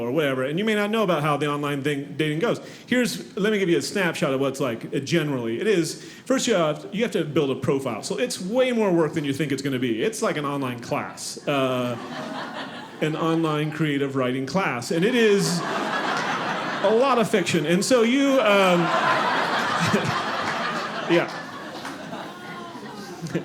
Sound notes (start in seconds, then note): 14.9 audience laughing; 17.8 audience laughing